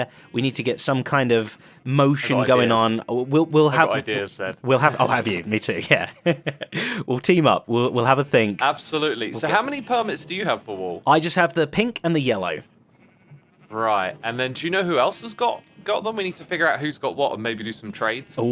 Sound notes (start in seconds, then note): 5.7 laughs